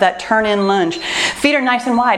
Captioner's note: timer beeps